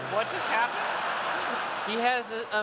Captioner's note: laughter